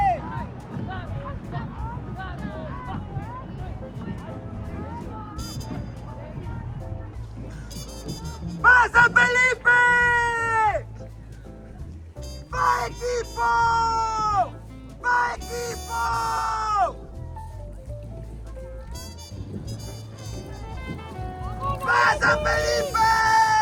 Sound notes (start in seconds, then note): 0.0 upbeat music; 9.0 speaking in foreign language